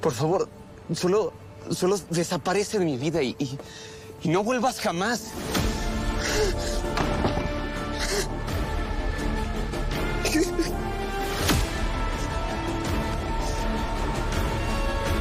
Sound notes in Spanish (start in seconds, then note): 7.0 Sollozos